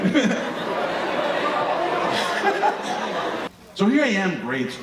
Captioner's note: audience laughing